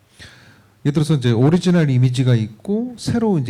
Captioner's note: speaking korean